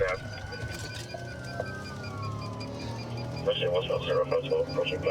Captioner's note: sirens wailing